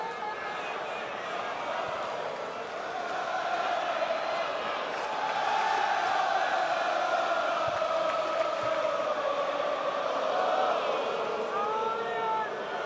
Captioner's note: crowd cheering